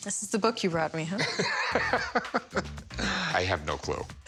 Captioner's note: laughter